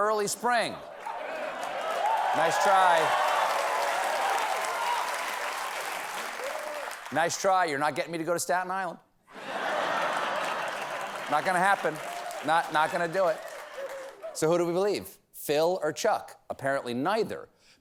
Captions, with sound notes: SPRING. ( CHEERS AND APPLAUSE ) NICE TRY. NICE TRY. YOU'RE NOT GETTING ME TO GO TO STATE ISLAND. ( LAUGHTER ) ( APPLAUSE ) NOT GOING TO HAPPEN. NOT GONNA DO IT. SO, WHO DO WE BELIEVE, PHIL OR CHUCK?